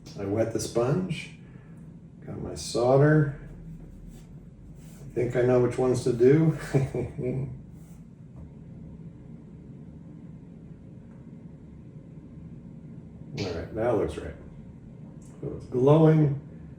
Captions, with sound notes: I wet the sponge, got my solder. Think I know which ones to do. (chuckles) All right, that looks right. It's glowing.